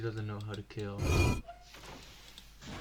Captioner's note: concretescraping.mp3